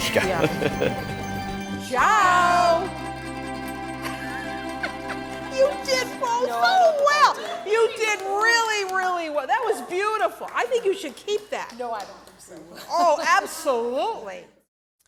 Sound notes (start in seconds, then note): 0.0 chuckles; 3.9 laughs